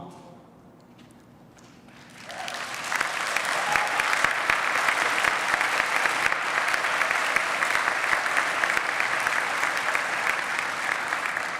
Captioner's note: applause